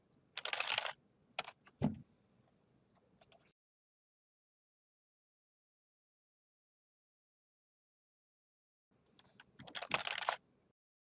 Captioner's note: typing sound